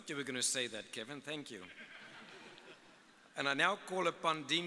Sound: audience laughing

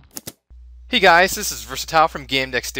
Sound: voiceover

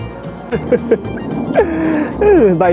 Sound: laughs

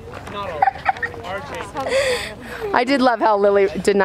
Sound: laughs

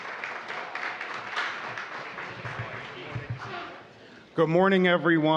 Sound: applause

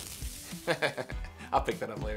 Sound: laughs

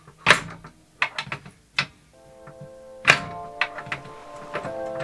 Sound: machine clanking; gentle instrumental music

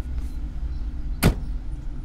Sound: car door shuts

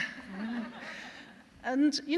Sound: laughter

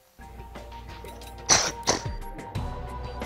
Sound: coughs

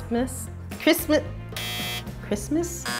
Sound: beeping

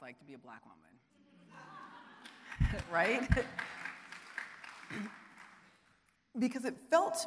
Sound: audience laughing and applauding

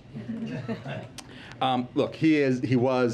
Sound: laughter

